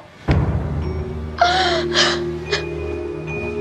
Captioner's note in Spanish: llora